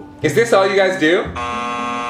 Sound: buzzer buzzing

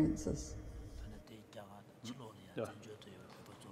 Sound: speaking foreign language

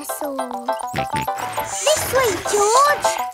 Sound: george snorts

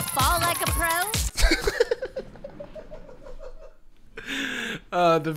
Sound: laughing

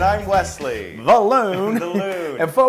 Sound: laugh

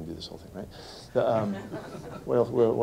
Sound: laughter

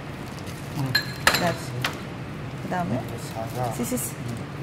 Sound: speaking Korean

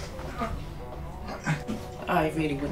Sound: struggling groans

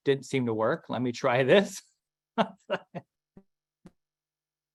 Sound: laughs

